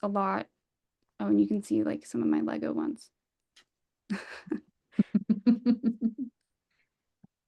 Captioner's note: laughter